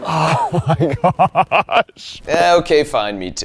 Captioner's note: laughs